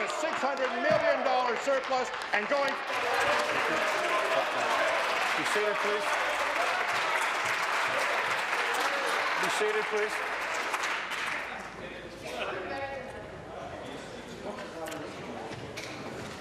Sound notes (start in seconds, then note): 6.4 applause